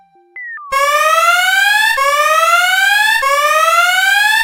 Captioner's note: offhand electronic music; alarm blares